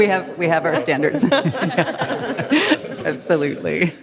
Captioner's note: audience laughs